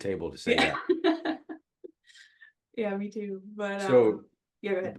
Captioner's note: laugh